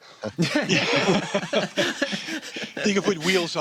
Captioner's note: laughter